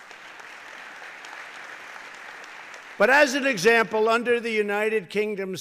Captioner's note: applause